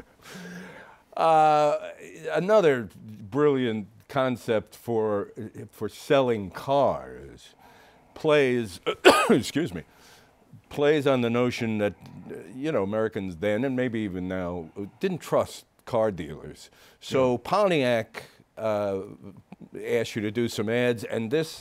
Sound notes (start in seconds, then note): 1.3 laughs; 8.8 coughs